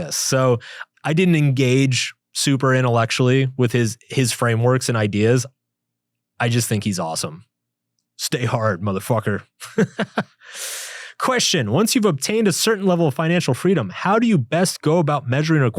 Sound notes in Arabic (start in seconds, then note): 9.6 يضحك